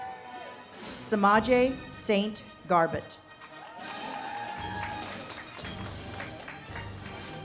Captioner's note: audience cheers and claps